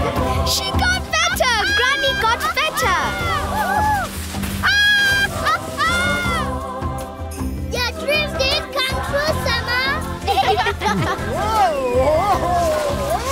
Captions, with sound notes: - She got better! Granny got better! - Woo-hoo! (laughing) - Your dream did come true, Sema! (bleating, laughing) - Whoa!